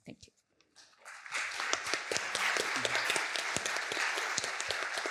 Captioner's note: applause